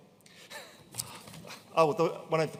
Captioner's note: attendee laughing